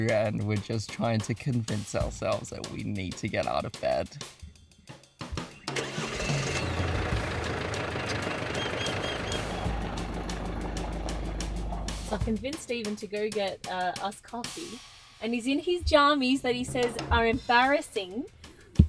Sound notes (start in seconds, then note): 4.5 upbeat music; 5.7 vehicle droning